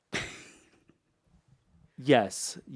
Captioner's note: laughs